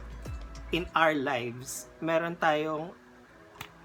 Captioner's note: snap